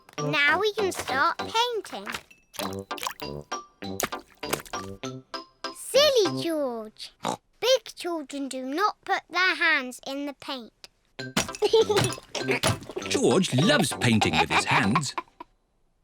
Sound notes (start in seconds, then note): 11.6 giggles